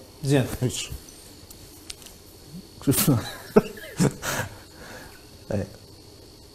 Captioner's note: laughs